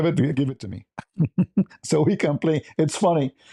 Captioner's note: ketawa